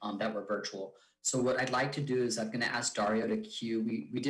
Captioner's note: speaks faintly